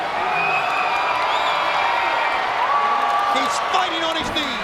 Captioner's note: crowd cheers